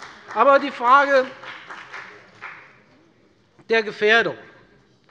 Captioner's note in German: Beifall bei der FDP